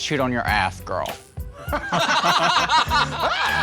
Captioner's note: laughing